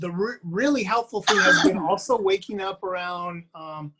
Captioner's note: coughs